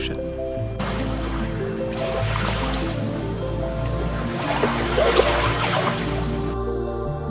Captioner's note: bright music; water splashing